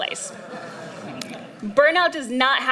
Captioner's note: laughter